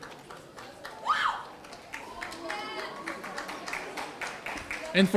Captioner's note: audience cheering